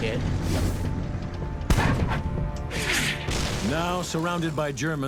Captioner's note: shell firing